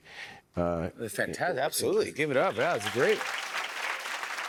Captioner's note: cheers and applause